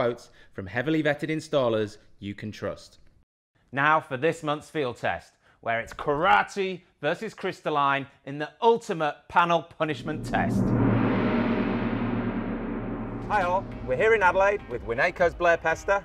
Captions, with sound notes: from heavily vetted installers you can trust. Now for this month's field test, where it's karate versus crystalline in the Ultimate Panel Punishment Test. (gong chimes) Hi all, where here in Adelaide with Winaico's Blair Pester.